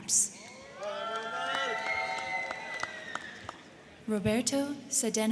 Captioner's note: crowd cheering; crowd clapping